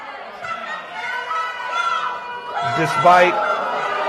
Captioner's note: booing